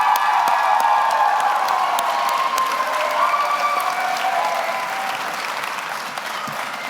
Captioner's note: audience applauds; audience cheers